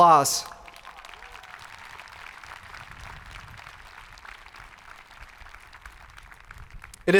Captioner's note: people cheering; hands clapping